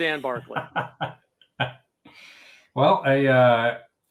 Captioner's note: laughing